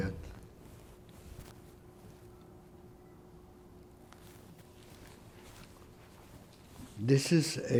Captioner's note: pauses 6 seconds